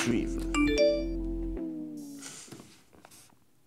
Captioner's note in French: sonnerie de message